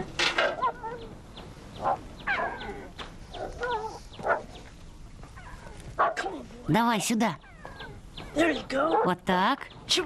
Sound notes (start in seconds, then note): 1.5 dog Barking